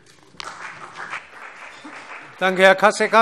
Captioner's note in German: Beifall CDU und BÜNDNIS 90/DIE GRÜNEN